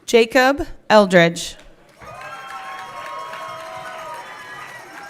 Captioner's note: everyone cheering